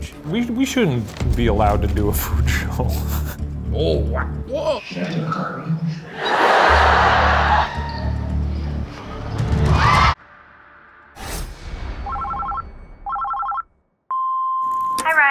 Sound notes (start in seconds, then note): 2.6 laughing; 6.0 audience laughing; 9.4 audience cheering; 10.1 abrupt tense tone; 13.0 phone ringing